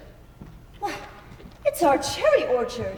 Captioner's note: scoffs